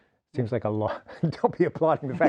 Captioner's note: laughing